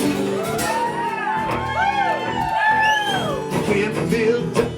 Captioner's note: cheers and applause